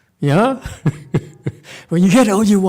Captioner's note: laughs